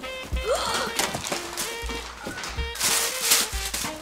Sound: gasps

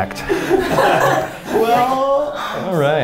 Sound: laughing

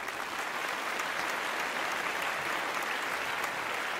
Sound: applause

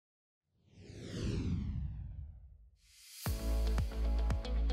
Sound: logo whooshing; upbeat music

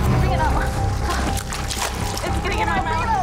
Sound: blood splashing

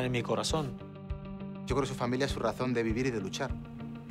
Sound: speaking Spanish

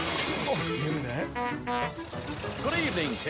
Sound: Winstion Honks

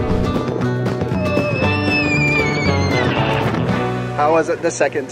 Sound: screaming

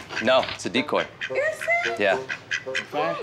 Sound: duck quacking

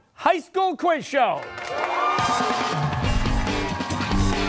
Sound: cheers and applause

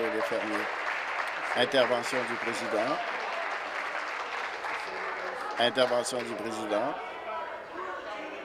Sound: applause

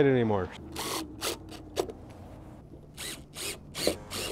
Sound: drill squeaking

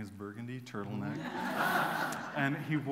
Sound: laughter

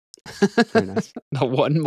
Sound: laughs

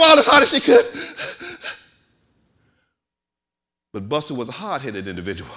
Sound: breathing heavily

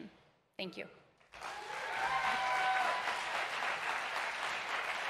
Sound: audience applauding

